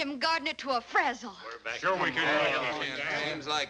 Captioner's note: crowd